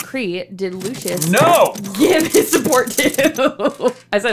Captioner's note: laughs through rest of the question